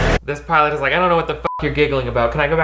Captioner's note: beep